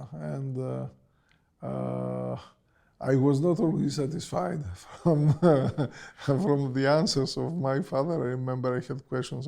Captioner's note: laughs